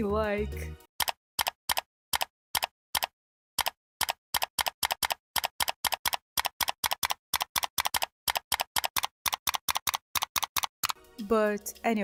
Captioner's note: aggressive clicking